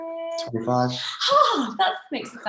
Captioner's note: gasps